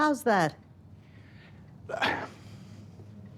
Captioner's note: sighs